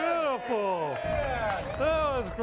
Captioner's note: everyone cheering